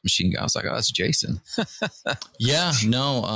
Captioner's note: laughter